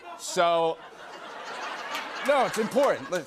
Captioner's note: laughter